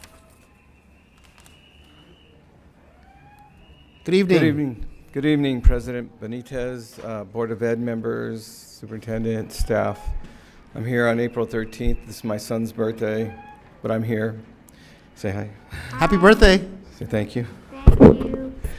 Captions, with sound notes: (whistles blowing) (jeering) Good evening. - Good evening. Good evening President Bonitez, Board of Ed members, superintendent, staff, I'm here on April 13th. This is my son's birthday, but I'm here. Say hi. - Hi! - Happy birthday! - Say thank you. - Thank you.